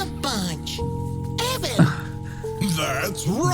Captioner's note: sobs